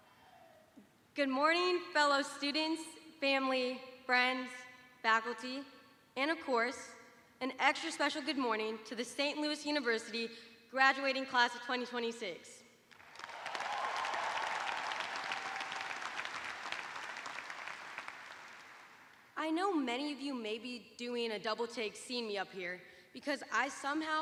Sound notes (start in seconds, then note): 10.0 cheers and applause